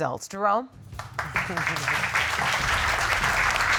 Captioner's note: crowd applauding